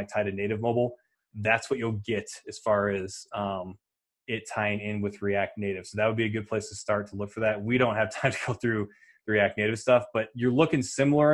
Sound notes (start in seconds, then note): 8.5 laughing